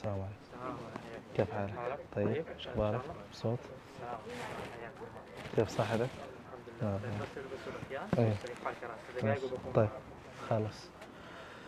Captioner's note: Arabic